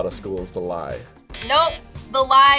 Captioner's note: buzzer rings